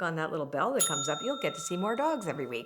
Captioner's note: bell ringing